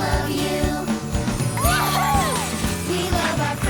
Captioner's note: cheering